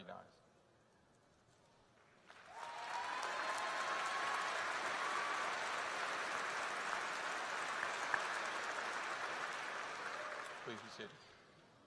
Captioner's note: applause